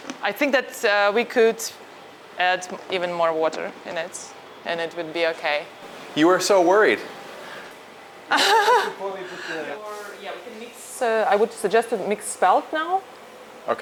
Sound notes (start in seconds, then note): 8.3 laughs; 9.4 people chattering